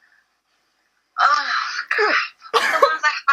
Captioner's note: laughs